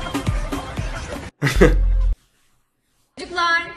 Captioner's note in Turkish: Gülüyor